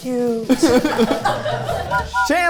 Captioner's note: everyone laughing; train whistle blowing